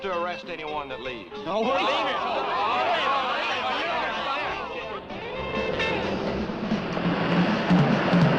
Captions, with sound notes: - I'll have to arrest anyone that leaves. (teens clamoring)